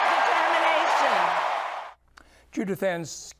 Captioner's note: crowd cheering